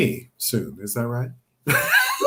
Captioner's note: both laugh